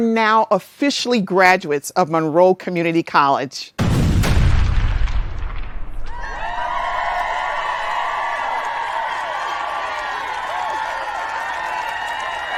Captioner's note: sound of explosions and cheering